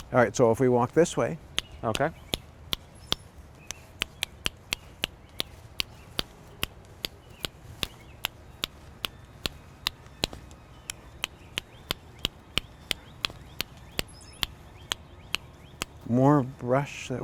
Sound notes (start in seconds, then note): 3.1 mouth clicking; 6.6 rocks clicking